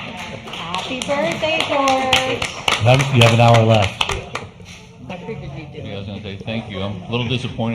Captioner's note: applause